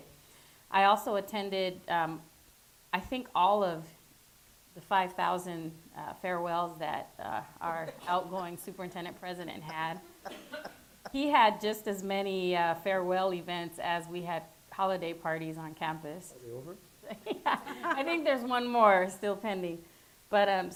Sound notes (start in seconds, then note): 10.9 chuckling; 17.0 laughing